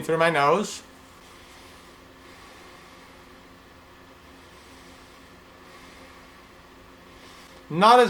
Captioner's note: sounds of inhaling and exhaling